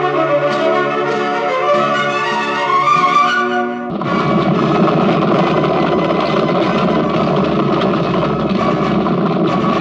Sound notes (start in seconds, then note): 3.9 hooves clopping